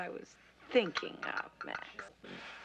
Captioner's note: china rattling